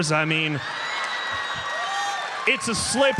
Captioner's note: audience laughs